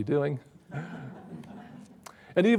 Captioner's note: audience laughs